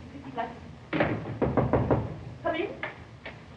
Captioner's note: mumbling worriedly; knocking on door